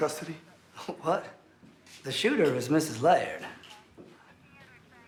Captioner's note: chuckles